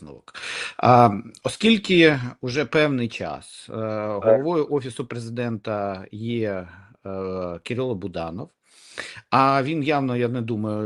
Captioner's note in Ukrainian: сопіння